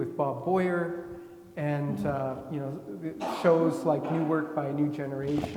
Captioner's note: attendee coughing